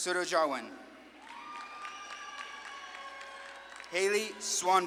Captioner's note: audience claps and cheers